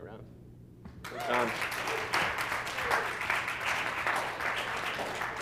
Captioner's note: applause